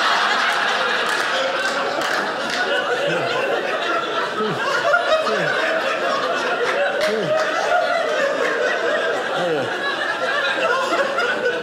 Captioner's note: audience laughing